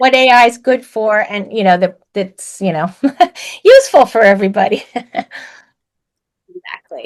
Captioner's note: laughs